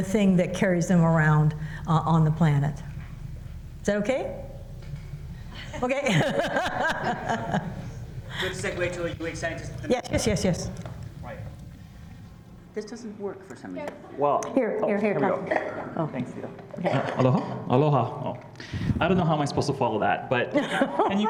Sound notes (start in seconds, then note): 5.6 laughs; 20.5 laughter